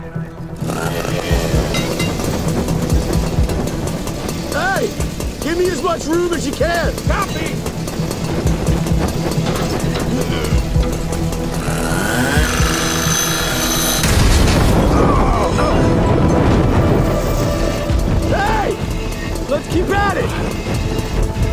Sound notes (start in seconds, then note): 0.3 saw revs; 9.5 groaning; 14.0 explosion booms; 16.0 suspenseful music